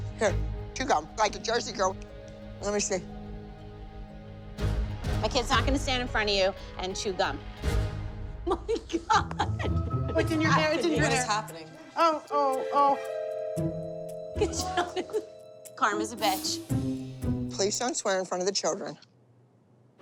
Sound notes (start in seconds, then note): 8.4 laughs; 14.2 laughter